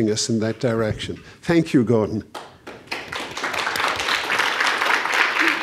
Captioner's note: audience applauds